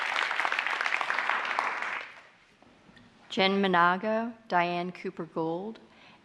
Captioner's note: applause